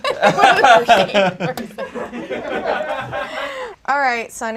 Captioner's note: audience laughs